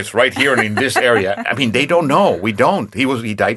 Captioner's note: laughing